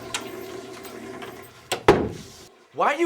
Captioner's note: door clicks